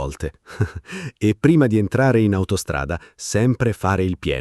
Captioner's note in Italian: Haha